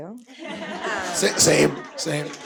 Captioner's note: everyone chuckling